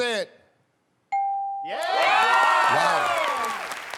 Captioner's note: ding